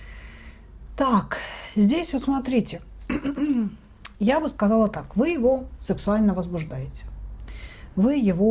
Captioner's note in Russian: откашливается